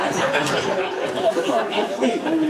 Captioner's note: laughter